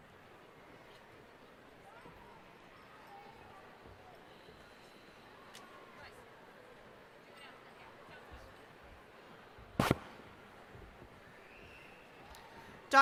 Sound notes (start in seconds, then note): none